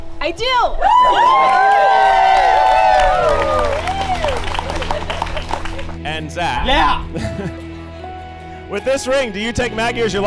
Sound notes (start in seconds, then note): 0.9 audience applauds and cheers